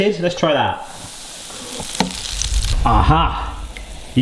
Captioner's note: oil sizzling